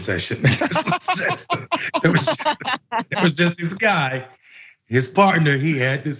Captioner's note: laugh